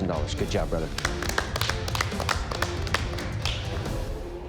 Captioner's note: applause